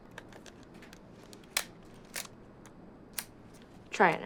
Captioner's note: shutter clicks